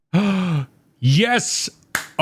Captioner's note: gasp